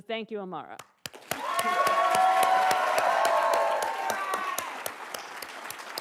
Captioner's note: attendees cheering and applauding